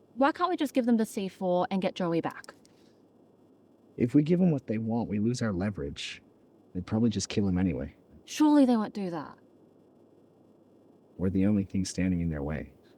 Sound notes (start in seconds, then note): none